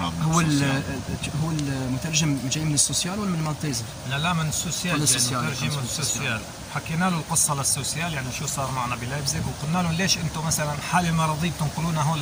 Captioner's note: speaking Arabic